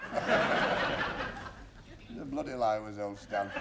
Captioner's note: laughter